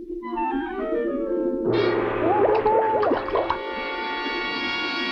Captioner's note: man groaning; water swishing; suspenseful music playing